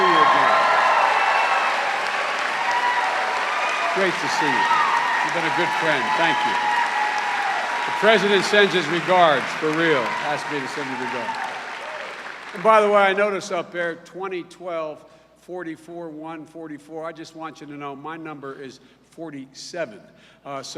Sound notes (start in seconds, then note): 2.5 cheers and applause; 12.5 cheers and applause